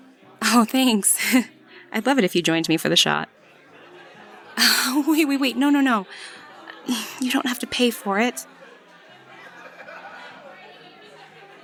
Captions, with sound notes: Aw, thanks! I’d love it if you joined me for the shot. [awkward laugh] Wait wait wait, no no no! You don’t have to pay for it!